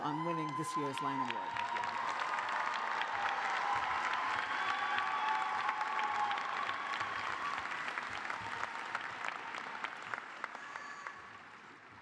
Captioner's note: cheers and applause